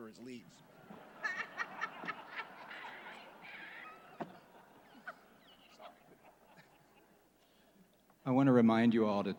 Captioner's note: laughter